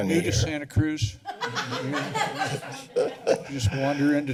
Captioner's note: laughter